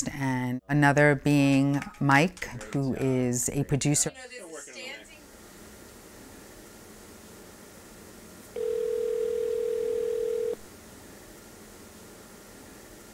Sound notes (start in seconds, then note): 8.5 phone ringing